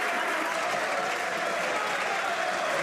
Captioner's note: some Applause